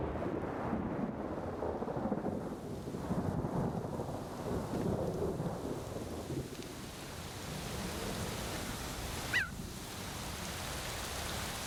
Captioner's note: thunder crashes